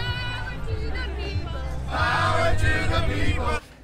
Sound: chant

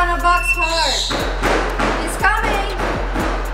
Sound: loud thumping

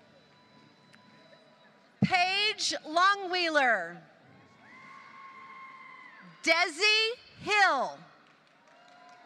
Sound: applause

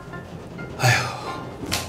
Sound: sighes

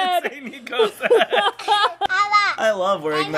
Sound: laughing

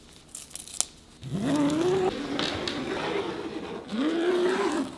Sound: fabric ripping

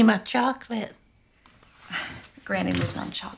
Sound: laughs softly

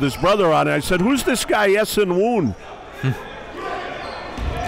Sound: slight chuckling

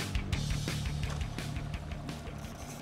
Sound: reel spinning

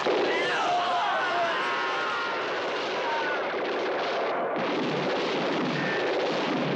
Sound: men grunting; guns blasting

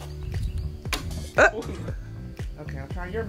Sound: dart clatters against wood

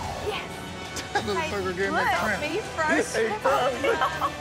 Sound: overlapping chatter

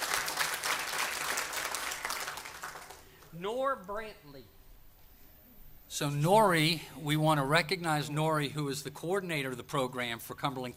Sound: applause

